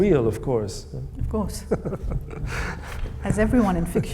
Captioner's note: Hisham laughs